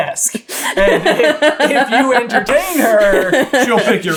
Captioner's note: laughing